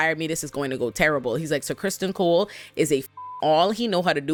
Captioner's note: beep